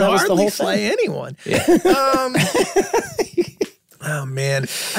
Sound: group laughing

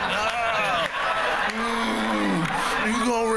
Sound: groans

